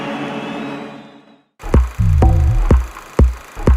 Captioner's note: film reel noise